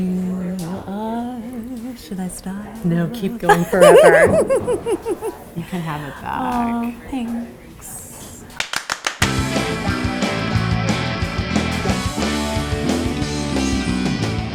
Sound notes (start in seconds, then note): 3.4 laughs; 8.6 hands clapping; 9.6 high energy rock music